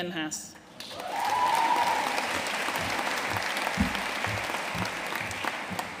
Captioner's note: audience cheering and applauding